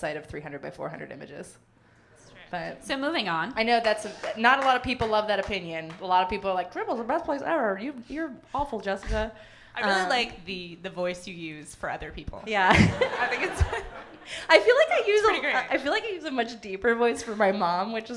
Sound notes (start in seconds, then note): 12.6 laughter; 12.7 everyone laughing